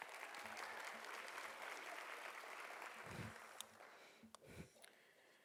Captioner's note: audience applauding